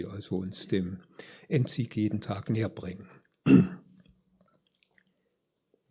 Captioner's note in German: räuspern